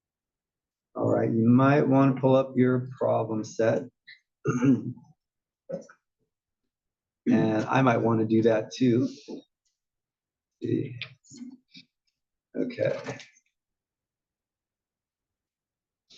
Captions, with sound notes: All right, you might wanna pull up your problem set, [COUGH] And I might wanna do that too. Okay.